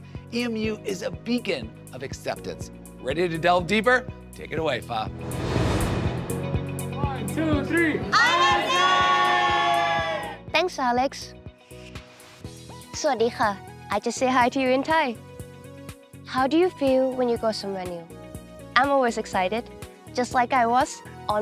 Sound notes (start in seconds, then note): 5.0 upbeat music; 8.0 all cheering